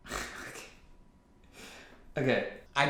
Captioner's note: laughs